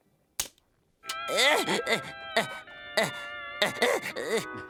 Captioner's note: groaning